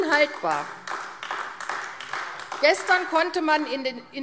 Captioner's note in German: Beifall AfD